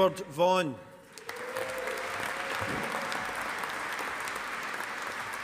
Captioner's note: audience applauding